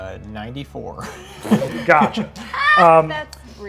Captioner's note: laughter